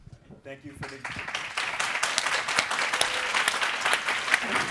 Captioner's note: audience applauds